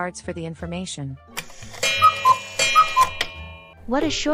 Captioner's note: clock sound & time card